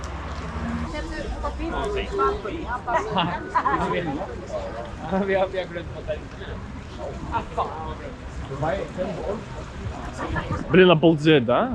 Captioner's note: crowd noise